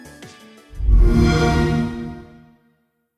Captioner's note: xbox sound